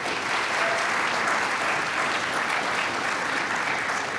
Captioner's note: applause